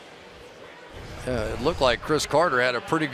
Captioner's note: pa announcement